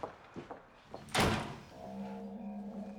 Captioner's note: door slamming